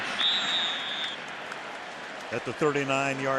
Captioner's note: whistle blows